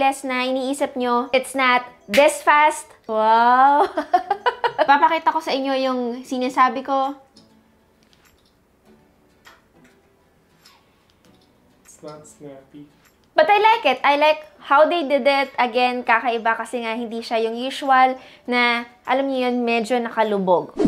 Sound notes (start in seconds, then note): 4.1 laughs